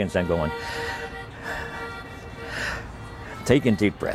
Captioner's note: deep sigh